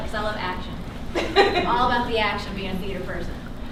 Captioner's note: laughter